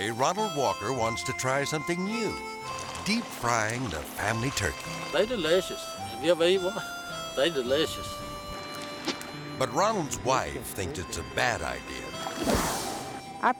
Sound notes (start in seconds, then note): 2.6 oil sizzling; 8.7 gentle music; 12.4 air swoosh